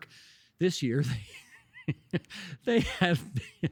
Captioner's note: laughing